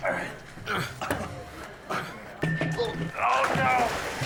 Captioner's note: person struggling